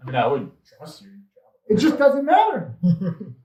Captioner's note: speaks faintly